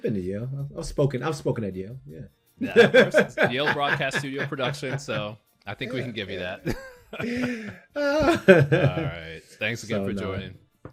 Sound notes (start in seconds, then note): 2.7 laughs; 6.6 both laughing